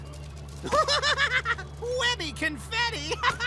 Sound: laughing

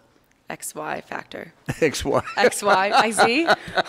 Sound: laughing

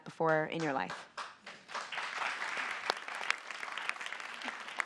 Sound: audience applauds

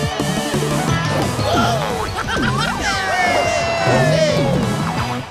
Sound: cheering, laughing

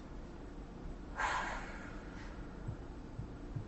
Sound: sighs

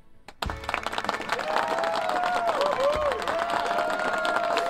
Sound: cheering and applause

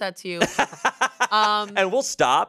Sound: laughs

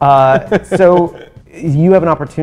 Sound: laughs

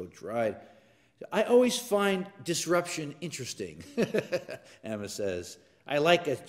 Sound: laugh

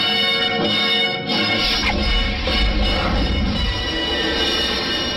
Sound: digital whooshing sounds

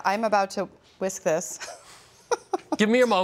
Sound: laughs

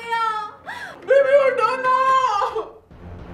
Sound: crying; crying

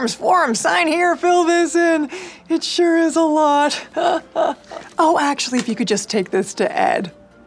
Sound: laughs

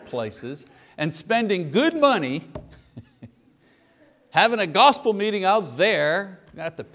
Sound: chuckles

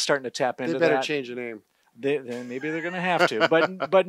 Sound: laughter

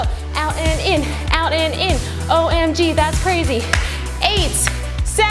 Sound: claps

